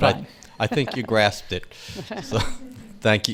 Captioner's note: laughs